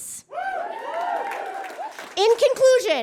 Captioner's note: audience cheers and applauds